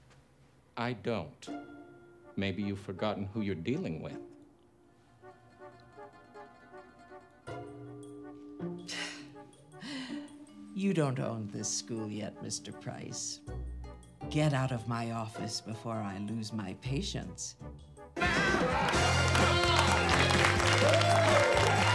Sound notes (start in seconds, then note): 5.1 soft tense orchestral music; 8.8 scoffs; 18.2 students cheering